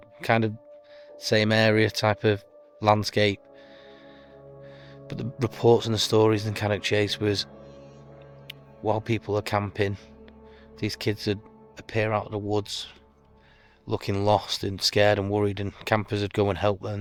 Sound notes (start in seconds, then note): 3.4 heavy breathing